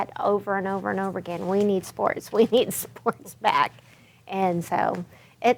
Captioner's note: chuckles